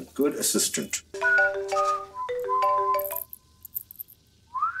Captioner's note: Phone ringing